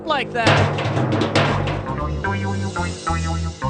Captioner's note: clunking